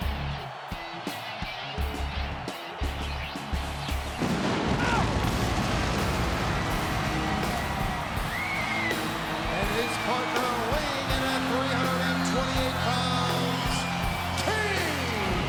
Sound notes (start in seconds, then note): 4.1 pyrotechnics exploding; 4.4 Jerry yelping; 6.7 crowd cheering; 6.7 sinister rock music